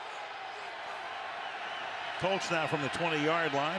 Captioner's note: cheers, applause